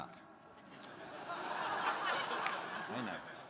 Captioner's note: crowd laughing